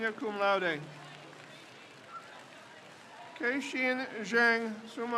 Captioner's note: crowd cheers